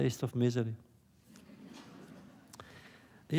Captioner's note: laughter